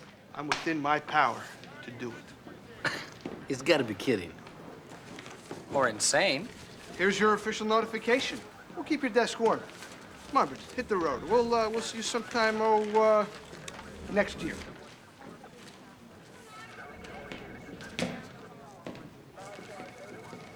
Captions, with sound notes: to take his vacation time. (laughs) Rick, are you giving me the day off? I'm not giving you the day off. No, Nash, I'm giving you the next ten months and 13 days off. (sighs) Rick, you are not my commanding officer, so... No, not in the direct chain of command, no, but SIU does fall under my administrative supervision.